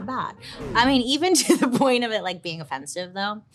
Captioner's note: laughing